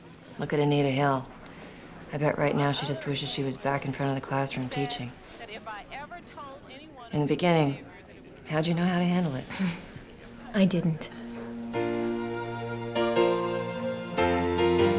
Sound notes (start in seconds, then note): 9.5 chuckles